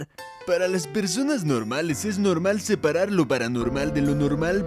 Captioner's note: astoundingly funny in Spanish